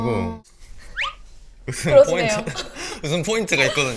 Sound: he tries to manage this situation with chuckling

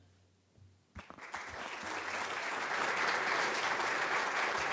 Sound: audience applauding

